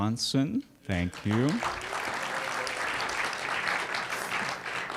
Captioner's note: applause